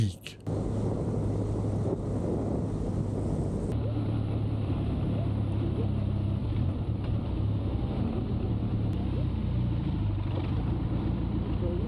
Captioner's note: wind and engine rumbling